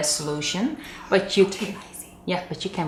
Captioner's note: whispering